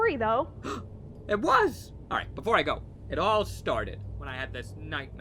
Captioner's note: gasp